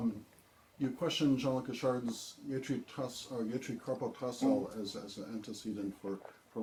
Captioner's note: tibetan